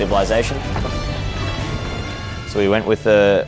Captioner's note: weapons clanking